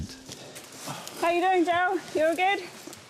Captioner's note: panting